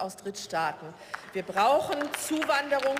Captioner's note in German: Beifall